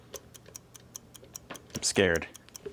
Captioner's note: clock ticking